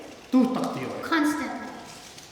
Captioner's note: speaking tibetan